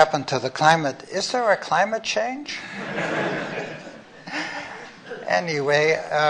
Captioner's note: laughter